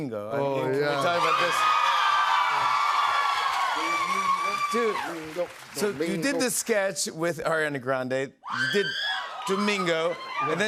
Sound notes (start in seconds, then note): 1.0 cheers and applause